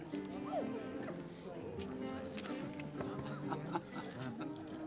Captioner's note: laughter